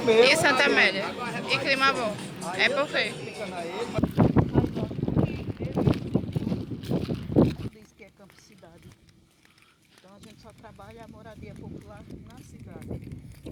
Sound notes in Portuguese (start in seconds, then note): 3.9 Vento forte